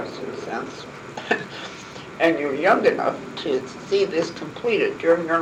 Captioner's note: laugh